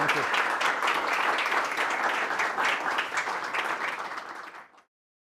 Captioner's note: applause